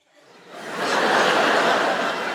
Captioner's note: laughter